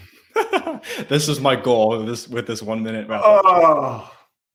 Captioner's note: chuckles